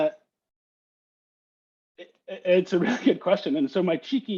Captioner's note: laughter